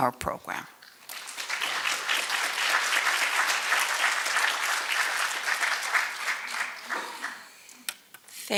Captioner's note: applause